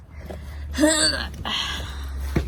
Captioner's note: grunts loudly